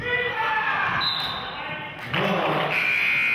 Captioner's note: referee murmurs; buzzer honks; whistle blows